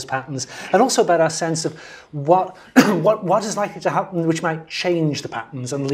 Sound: cough

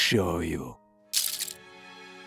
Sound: jangle!

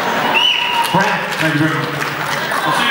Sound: laugh

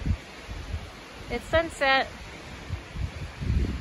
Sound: wind blowing

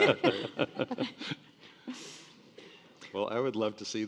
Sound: panelists laughing

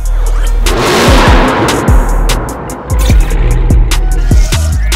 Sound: car engine revving

